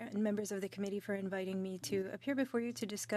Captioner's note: speaking French